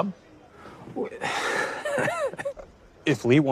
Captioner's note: chuckles sarcastically